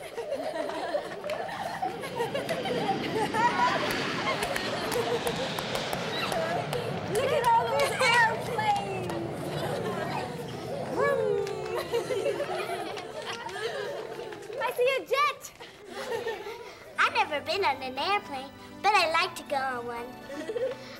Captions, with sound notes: (airplane flying) - Look at all those airplanes. (kids making airplane sounds and laughing) - I see a jet. - I've never been on an airplane, but I'd like to go on one.